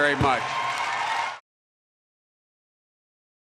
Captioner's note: applause